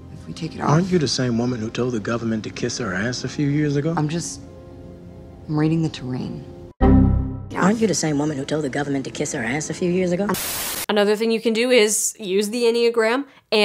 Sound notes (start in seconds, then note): 6.7 error message pinging